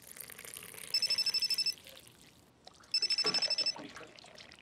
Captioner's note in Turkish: Telefon çalıyor